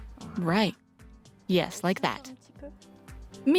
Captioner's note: French; speaks French